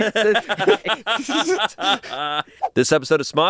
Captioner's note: laughing